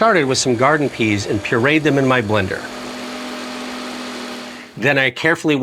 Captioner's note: blender whirring